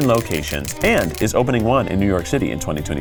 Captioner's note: graphics clicking